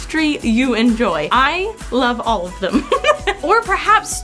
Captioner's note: chuckles